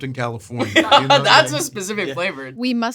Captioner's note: laughing